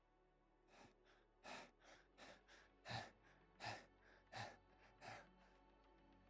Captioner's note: followed by more heavy breathing; followed by more fast breathing